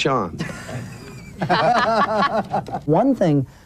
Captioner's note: laughs